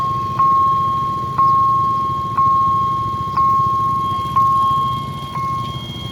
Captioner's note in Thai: ติ๊งๆๆๆ